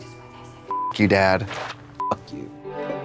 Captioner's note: beep